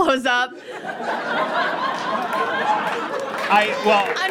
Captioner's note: audience laughs uproariously, then applauds